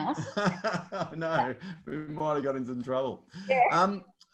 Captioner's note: laughs